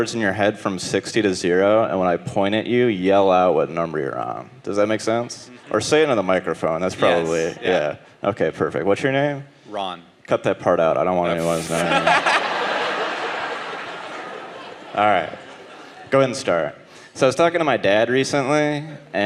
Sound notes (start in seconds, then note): 11.4 audience laughing